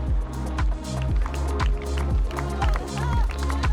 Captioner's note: applause